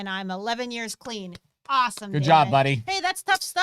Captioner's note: clapping